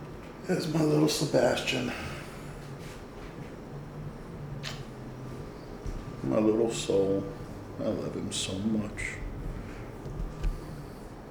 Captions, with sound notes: There's my little Sebastian. (softly smooching) My little soul. I love him so much.